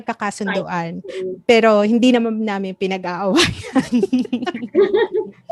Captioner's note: laughs